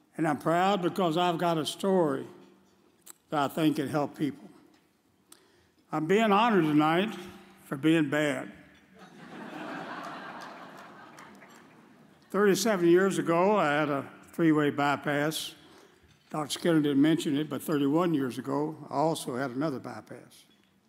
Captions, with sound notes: and I'm proud because I've got a story that I think could help people. I'm bein' honored tonight for bein' bad. (audience chuckles) 37 years ago I had a three-way bypass. Dr. Skinner didn't mention it, but 31 years ago, I also had another bypass.